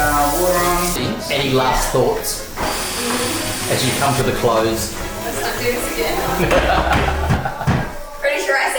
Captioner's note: laughs